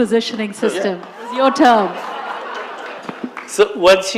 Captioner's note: laughter